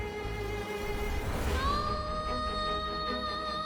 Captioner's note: emotive vocalisation